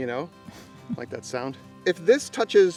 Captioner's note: woman laughing